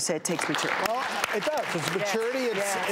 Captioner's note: clapping